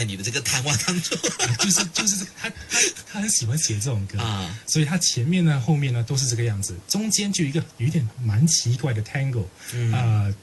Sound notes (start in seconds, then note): 6.5 loud and fast